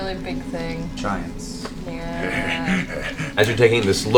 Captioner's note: laughs